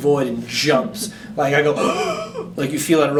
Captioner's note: inhales with struggle